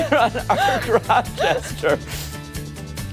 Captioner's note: laughter